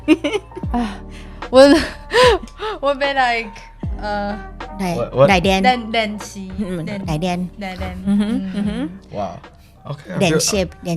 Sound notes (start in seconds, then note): 0.0 Taiwanese; 0.2 laughing; 2.6 taiwanese & English; 5.6 Taiwanese